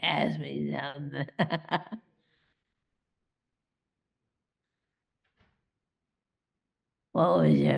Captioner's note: laughs